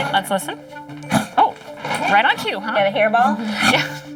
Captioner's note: huffs